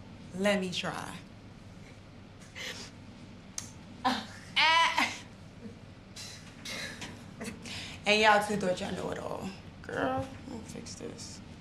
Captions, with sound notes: Let me try. [Tonya exclaims] And y'all two thought you knew it all. Girl, let me fix this.